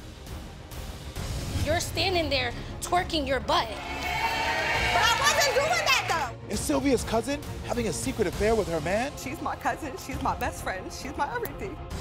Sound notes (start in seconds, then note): 3.7 audience cheers